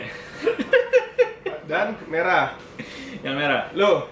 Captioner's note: laughter